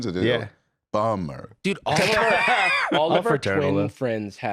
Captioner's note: laughs